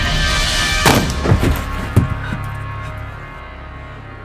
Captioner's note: gun fires